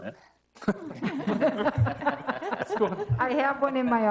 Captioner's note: laughing